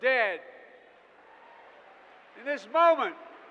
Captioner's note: applause